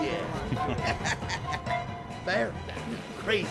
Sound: laughing

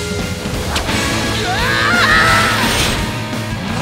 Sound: screaming

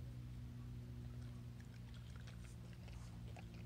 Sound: quiet nom

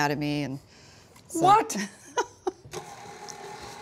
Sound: laughs

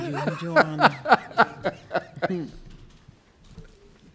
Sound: laughs

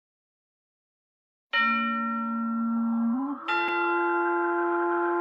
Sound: spooky chime plays

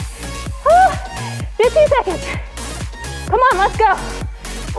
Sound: yelps

